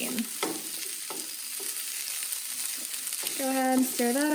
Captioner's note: sizzling